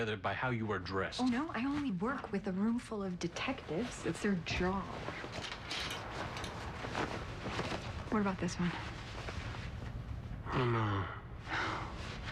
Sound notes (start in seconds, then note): 6.7 hangers rattle, fabric rustles